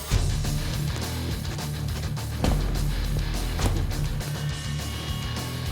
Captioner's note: blade impact sounds